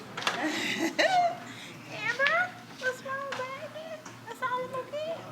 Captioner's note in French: gloussements